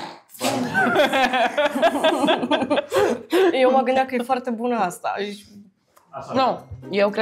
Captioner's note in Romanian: Râsete